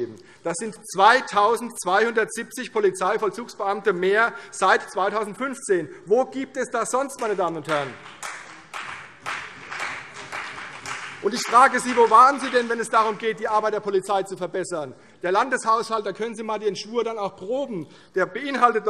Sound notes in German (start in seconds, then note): 7.5 Beifall CDU und BÜNDNIS 90/DIE GRÜNEN